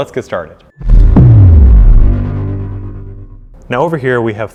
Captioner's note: booming